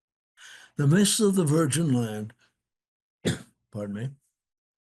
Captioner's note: coughs